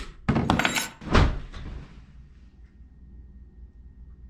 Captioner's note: locks clack; keys clang; body thumps